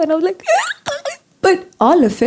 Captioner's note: cries